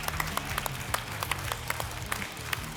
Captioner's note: applause and cheering